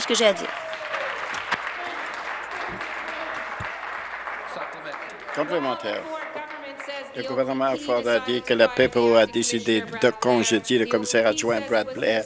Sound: some Applause

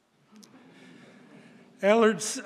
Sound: audience laughing

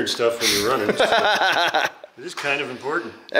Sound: laughs

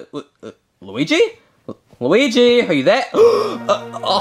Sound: gasps

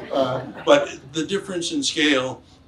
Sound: audience laughs

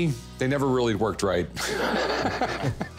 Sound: laughs

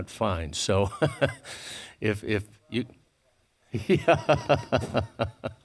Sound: laughing

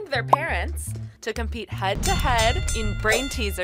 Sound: bell rings

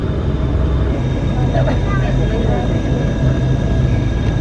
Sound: bus rumbling

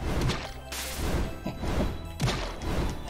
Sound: chuckles

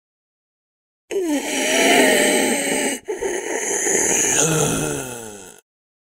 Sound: sound of zombie

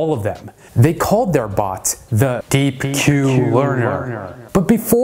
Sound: echo

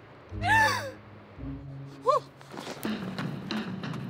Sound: gasps; rock music

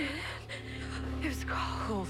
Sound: breathing heavily

